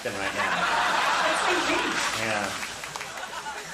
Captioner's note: audience laughing